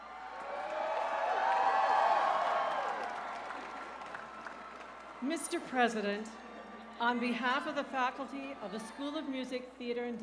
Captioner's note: cheers and applause